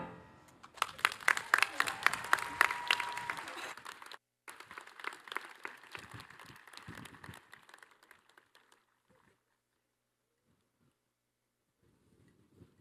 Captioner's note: applause